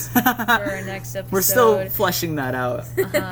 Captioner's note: laughs